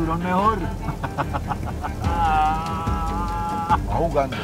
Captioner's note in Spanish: Risas